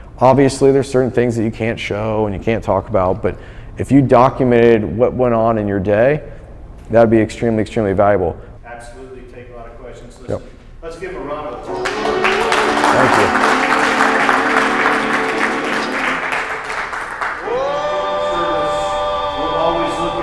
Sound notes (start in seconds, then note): 11.6 audience applauds; 16.5 urban music